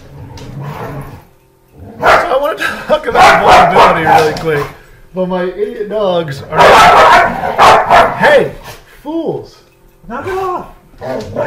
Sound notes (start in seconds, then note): 3.1 dog barking; 6.4 dogs barking